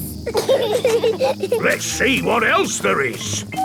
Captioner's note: bees buzzing